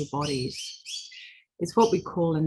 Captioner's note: bird chirping